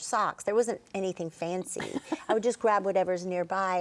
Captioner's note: laughing